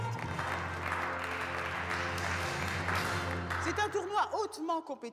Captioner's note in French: applaudissements